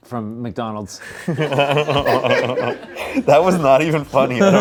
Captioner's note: everyone laughs